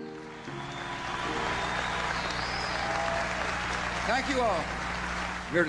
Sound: audience applauding

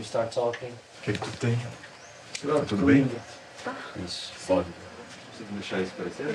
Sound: speaking in foreign language

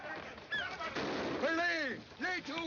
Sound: gunshot

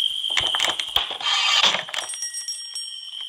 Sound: guillotine dropping

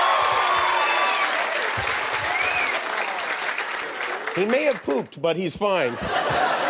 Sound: cheers and applause

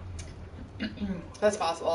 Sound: clears throat

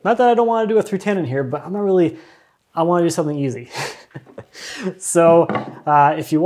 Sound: chuckles

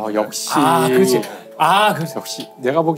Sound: the 6-year cast exclaims

